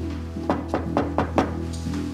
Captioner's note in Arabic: طرق الباب